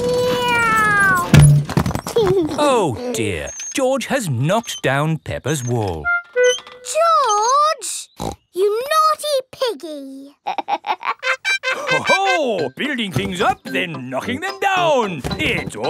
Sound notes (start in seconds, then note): 0.2 george imitates airplane; 2.3 george giggles; 8.2 snorts; 10.4 laughs